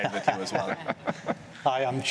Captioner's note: laughing